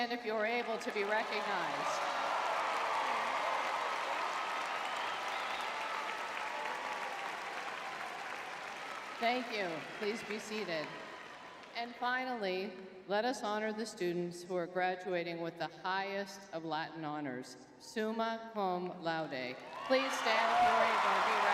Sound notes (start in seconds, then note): 3.5 audience cheering